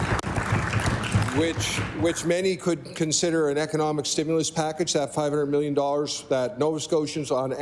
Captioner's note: applause